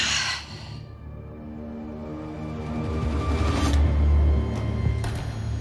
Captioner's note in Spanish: Suspiro